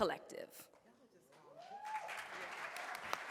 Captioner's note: audience claps; audience cheers